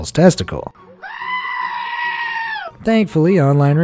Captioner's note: camel screams